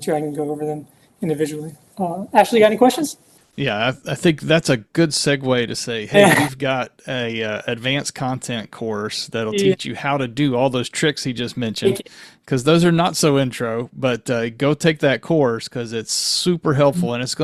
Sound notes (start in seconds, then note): 6.5 chuckling